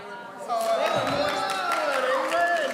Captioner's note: audience cheering